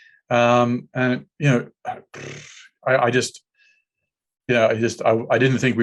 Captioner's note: sighs